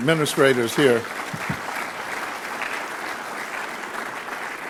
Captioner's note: audience claps